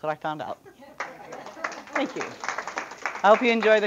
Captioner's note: audience applause and laughter